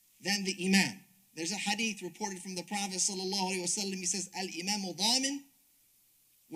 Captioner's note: speaks Arabic